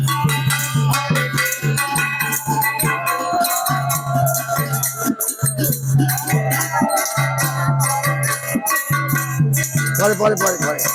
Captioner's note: noisy Laughter